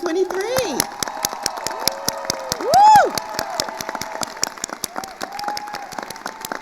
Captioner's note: attendees cheering and applauding